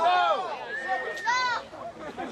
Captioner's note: crowd shouts